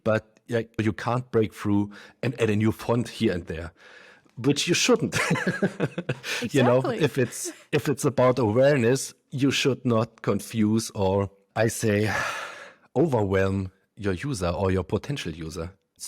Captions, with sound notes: but, like, you can't break through, and add a new font here and there, but you shouldn't. (laughs) - Exactly. - If it's about awareness, you should not confuse, or I say, overwhelm, your user, or your potential user.